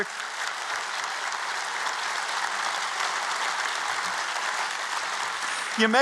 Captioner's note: applause